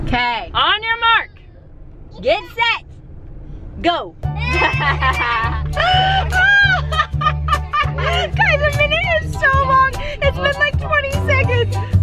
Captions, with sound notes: - Okay, on your mark, get set, go! (bright music) (all laughing) Guys, I mean it is so long. It's been like 20 seconds.